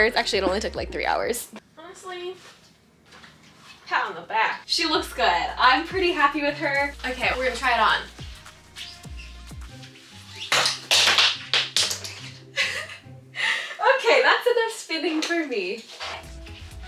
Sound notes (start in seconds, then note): 10.6 glasses clattering; 12.2 laughs